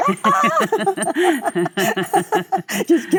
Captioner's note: Michelle screams; Michelle and Cate laugh